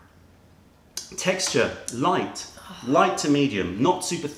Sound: sips tea

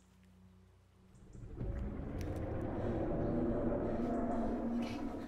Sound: dinosaur growls

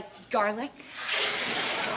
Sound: hissing

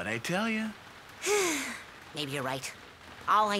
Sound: sighs happily

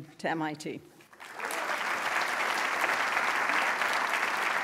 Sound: applause

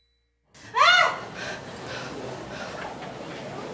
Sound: yelling

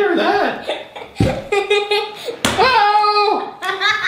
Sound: laughing

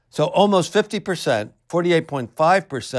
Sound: none

